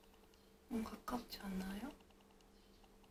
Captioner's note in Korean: 속닥